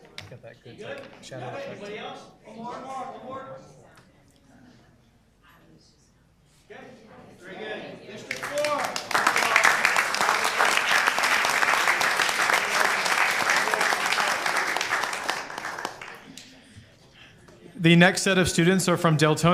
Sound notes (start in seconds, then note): 0.0 group chatter; 9.8 applause